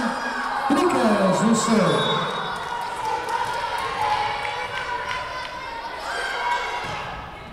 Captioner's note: whistle blowing